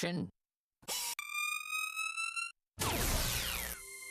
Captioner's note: whirring